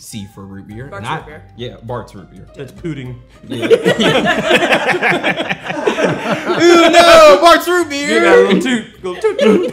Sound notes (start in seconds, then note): 3.4 all laughing